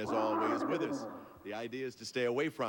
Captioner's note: dragon roars